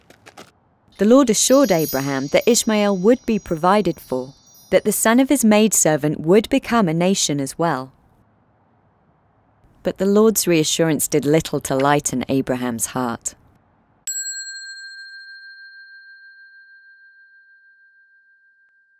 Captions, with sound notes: The Lord assured Abraham that Ishmael would be provided for... that the son of his maidservant would become a nation as well. But the Lord's reassurance did little to lighten Abraham's heart. (bell dinging)